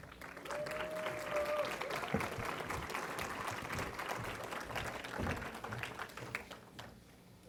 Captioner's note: applause